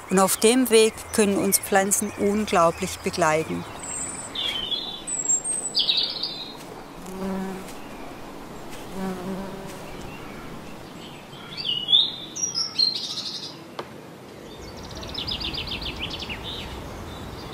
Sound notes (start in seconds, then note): 4.3 birdsong; 8.9 bee hum; 11.5 birdsong